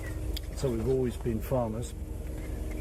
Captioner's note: none